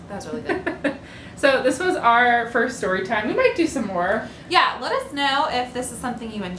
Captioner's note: laughter